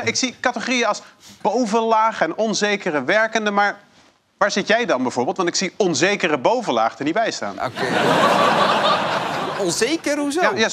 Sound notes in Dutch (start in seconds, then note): 7.6 gelach